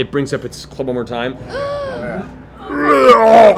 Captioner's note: roars